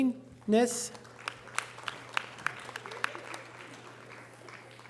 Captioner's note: audience applause